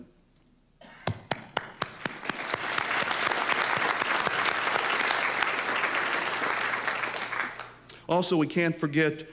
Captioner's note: applause